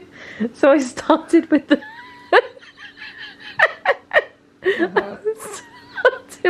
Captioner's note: laughing